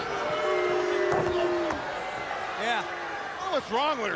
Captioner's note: crowd cheering